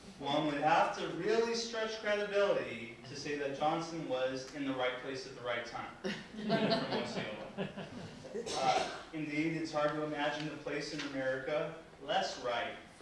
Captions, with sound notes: one would have to really stretch credibility to say that Johnson was in the right place at the right time in Osceola. (people laughing) Indeed, it's hard to imagine a place in America less right